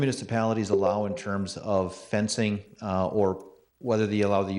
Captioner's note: electronic chime